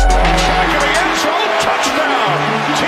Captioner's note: energetic hip hop music; cheering